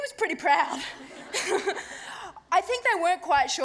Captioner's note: laughter